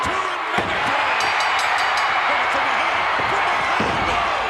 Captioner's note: bell ringing